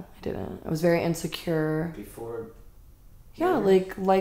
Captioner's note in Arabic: يتكلم بصوت مكتوم